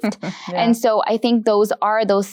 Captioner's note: laughing